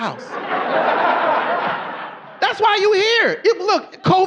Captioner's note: audience laughing